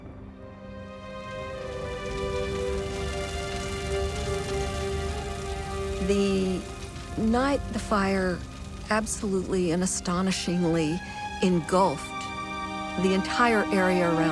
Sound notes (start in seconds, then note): 1.3 flames raging